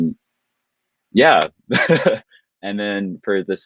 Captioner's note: laughing